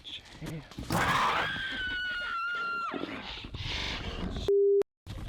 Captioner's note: snarling; Mary screaming